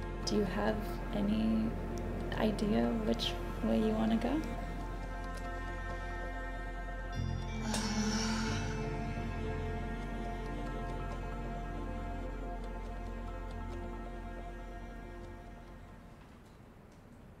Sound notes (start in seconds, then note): 6.4 soft music; 7.6 sighs